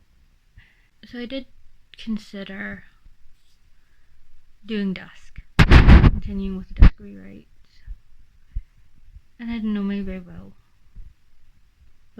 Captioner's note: interference